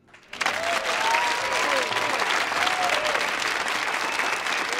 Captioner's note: audience applauding